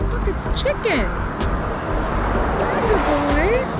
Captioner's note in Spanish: El coche pasa